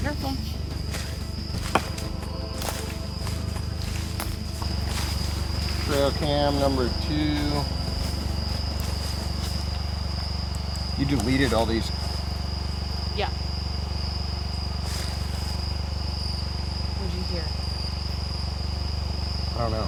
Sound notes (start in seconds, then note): 3.6 footsteps rustling; 14.7 engine rumbling